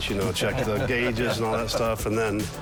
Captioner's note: laughs